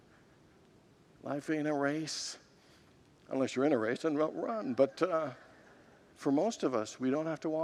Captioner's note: congregants laugh